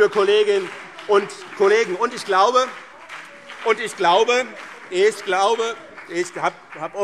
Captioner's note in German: Beifall BÜNDNIS 90/DIE GRÜNEN und CDU - Zurufe Freie Demokraten